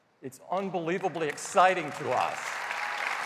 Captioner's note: applause